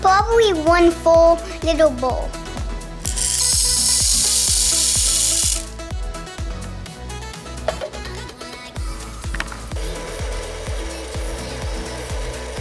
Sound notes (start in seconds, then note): 3.0 kernels rattling; 10.1 machine whirring